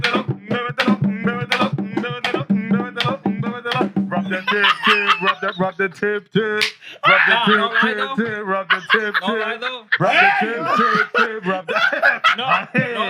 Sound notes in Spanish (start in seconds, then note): 4.2 Risas; 5.3 Música Hip Hop; 9.2 Risas